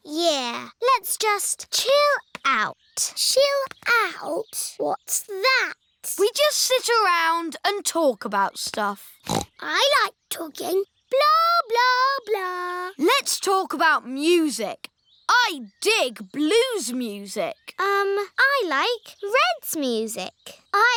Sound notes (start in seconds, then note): 9.2 snorts